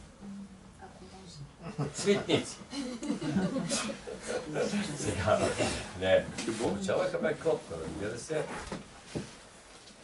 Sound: he laughs

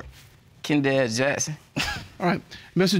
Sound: snickers

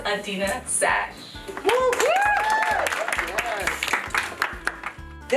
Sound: applause, cheers

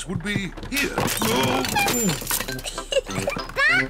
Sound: oinks; giggles

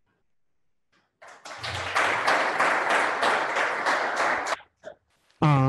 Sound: audience applause

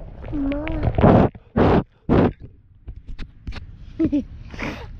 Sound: blowing

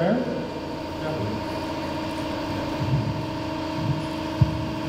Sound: machines humming

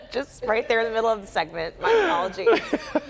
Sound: laughter

